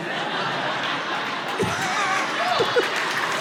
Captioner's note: laughs; audience applauding